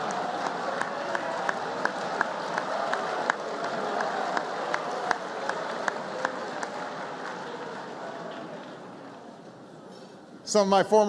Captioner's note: laughter and applause